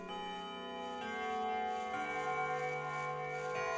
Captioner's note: bells chiming